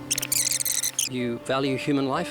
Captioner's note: rewind sound